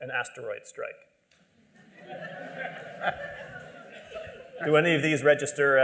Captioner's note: laughter